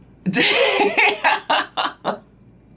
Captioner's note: laughs